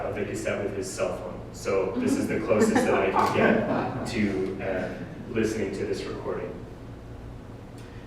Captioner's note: audience: Laughter